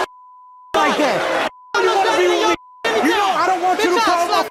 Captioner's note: overlapping chatter